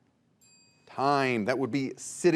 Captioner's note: bell dings